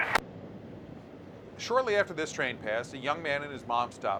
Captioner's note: radio chatter